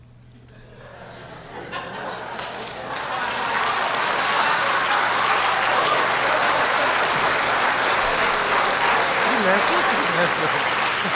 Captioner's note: laughter